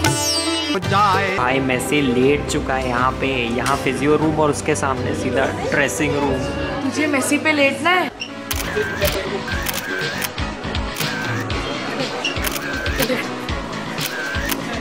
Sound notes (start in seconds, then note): 9.5 camera clicks; 12.4 paparazzi camera clicks